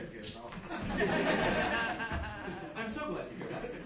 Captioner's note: group laughing